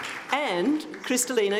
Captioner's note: audience applauds